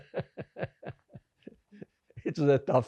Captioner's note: laughing